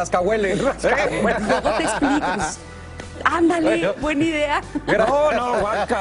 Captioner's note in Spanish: risas